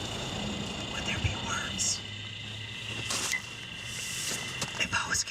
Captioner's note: distorted whispers